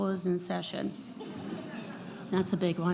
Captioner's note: audience laughing